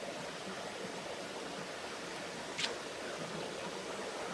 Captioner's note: water flowing